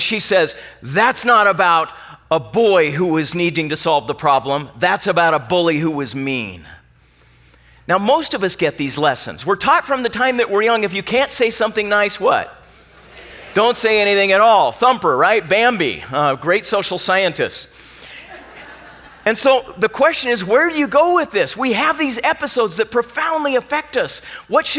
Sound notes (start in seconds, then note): 13.2 audience talking; 18.1 laughing